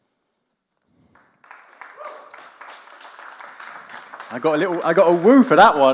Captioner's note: audience claps